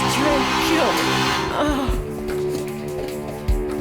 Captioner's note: groaning; suspenseful music